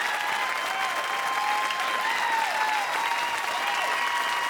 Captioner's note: audience cheering